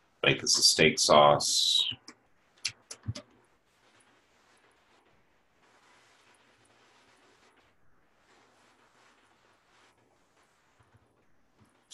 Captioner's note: typing Sounds